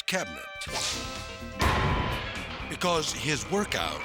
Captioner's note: weights clanking